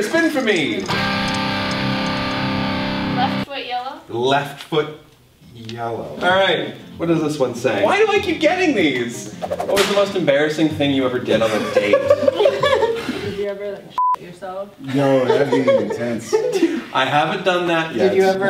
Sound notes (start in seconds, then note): 0.5 guitar music sound; 11.4 laughter